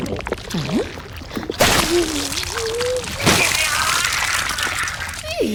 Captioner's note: viscous liquid sounds and struggling noises